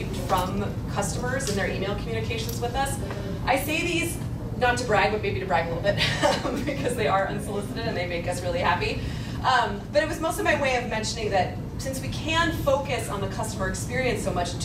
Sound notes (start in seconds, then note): 6.3 laughs